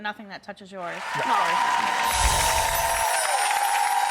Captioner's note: applause